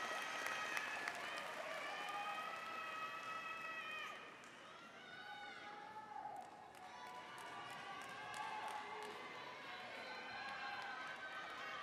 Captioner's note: applause